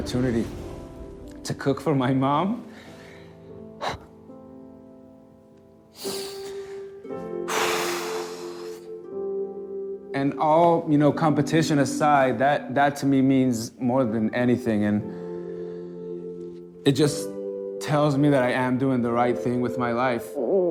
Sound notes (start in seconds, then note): 3.8 sighs; 5.6 sniffles; 7.4 exhales